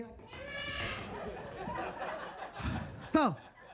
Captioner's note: Percy meows; audience laughs